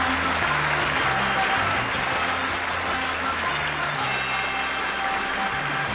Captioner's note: applause